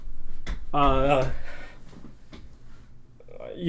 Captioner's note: cough - games